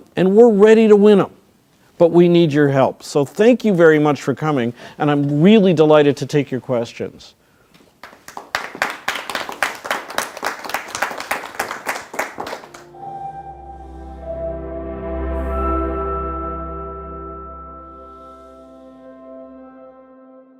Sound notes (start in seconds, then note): 8.0 crowd applauding; 12.7 light music